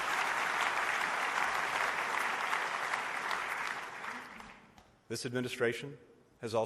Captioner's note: applause